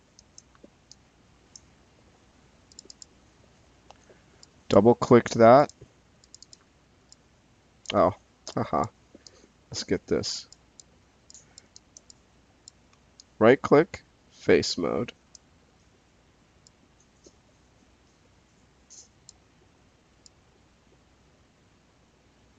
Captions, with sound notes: (mouse clicking) Double clicked that, (mouse clicking) oh, haha. (mouse clicking) Let's get this. (mouse clicking) Right click, face mode. (mouse clicking)